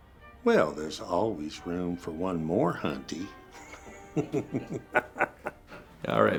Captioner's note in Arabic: تضحك